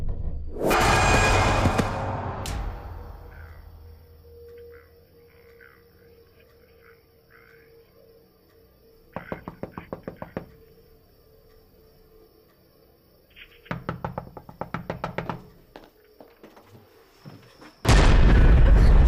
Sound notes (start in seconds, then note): 0.1 Brandy thudding; 0.6 sudden screeching music; 3.6 radio broadcasting quietly; 9.1 knuckles rapping; 16.3 door clicking; 17.3 sudden ominous music